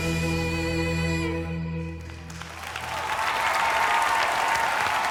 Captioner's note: applause